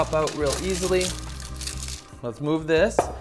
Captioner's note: crinkling paper